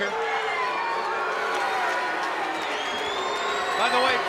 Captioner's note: spectators cheering